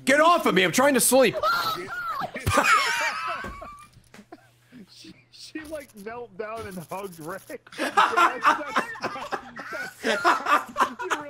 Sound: laughs

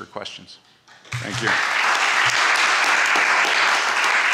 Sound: applause

